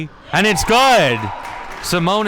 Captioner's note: spectators applauding